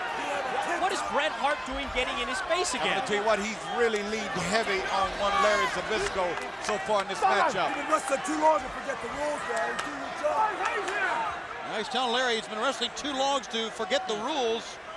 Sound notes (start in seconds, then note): 10.2 speaks faintly